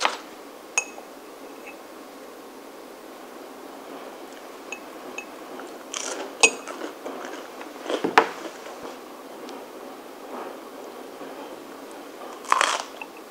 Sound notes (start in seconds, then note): 6.1 the sound of washing machine spinning